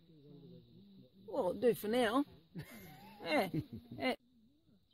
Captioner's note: laughter